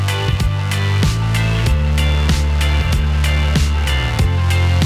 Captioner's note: bus engine revving